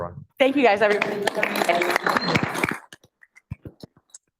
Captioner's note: applause